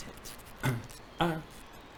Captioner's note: cough